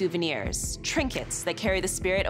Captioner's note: none